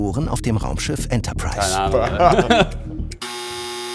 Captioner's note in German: Lachen